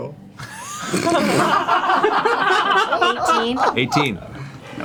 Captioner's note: all laugh